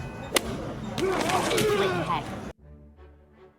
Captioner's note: thud; grunting; classical music